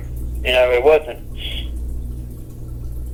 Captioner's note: sighs